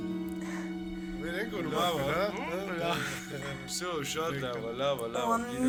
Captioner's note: speaking Armenian